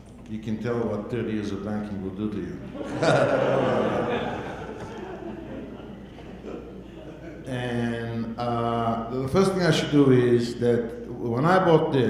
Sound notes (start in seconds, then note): 2.6 audience laughing